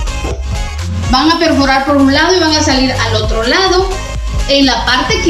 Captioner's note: speaking Spanish